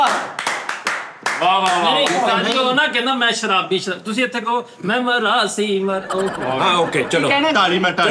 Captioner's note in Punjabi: ਤਾੜੀਆਂ